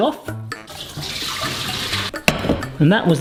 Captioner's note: water running